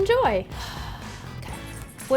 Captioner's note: sighing